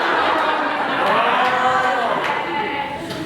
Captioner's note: animals cheer